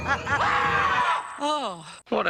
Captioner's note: laughs; man screams